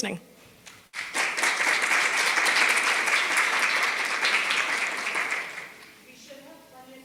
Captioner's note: applause